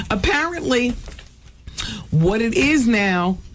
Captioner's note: none